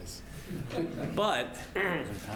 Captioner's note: laugh